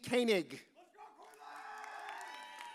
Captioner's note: audience cheers